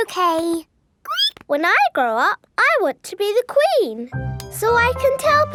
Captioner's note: squeaks